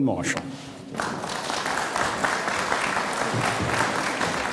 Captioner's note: audience applauds